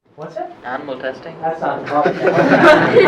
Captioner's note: laughing